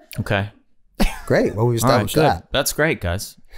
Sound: laughing; Charlie laughing

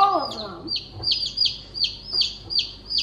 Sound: chirps

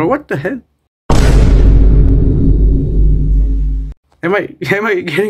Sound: vine explosion sound effect

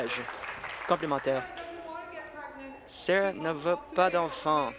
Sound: applause

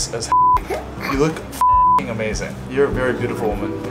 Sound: beep

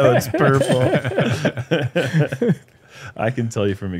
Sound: laughter

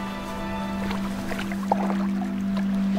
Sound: splash

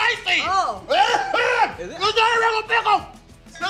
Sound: coughing

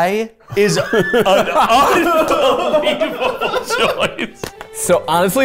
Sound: all laughing

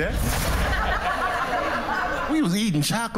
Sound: laughter

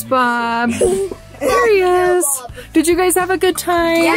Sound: chuckles

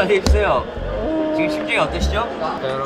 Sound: continues to cry

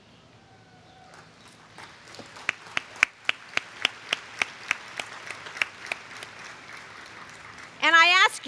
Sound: applause

